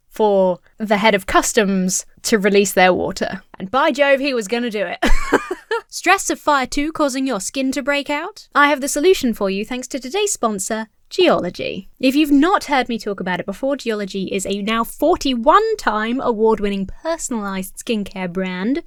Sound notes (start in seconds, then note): 5.0 laughs